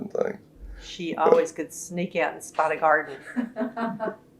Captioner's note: laughter